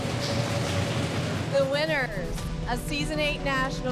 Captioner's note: all imitating a drum roll